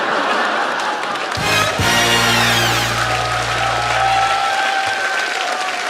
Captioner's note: laughter, applause, fourth minute win